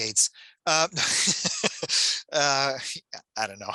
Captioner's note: laughs